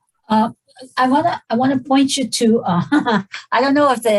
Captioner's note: laughs